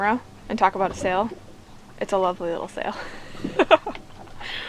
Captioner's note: laughs